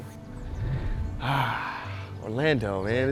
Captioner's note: excels deep breath out